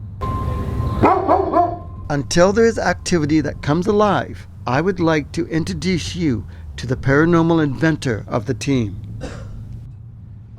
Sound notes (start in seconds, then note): 1.0 Nicki barks